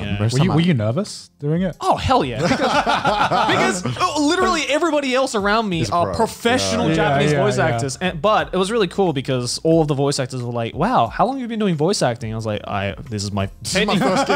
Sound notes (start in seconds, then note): 2.4 laughs